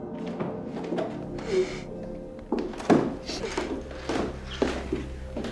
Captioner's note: sobbing quietly